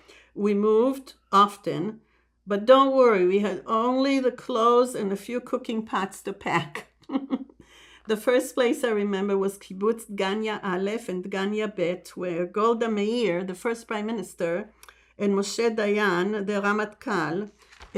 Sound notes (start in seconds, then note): 6.6 laughing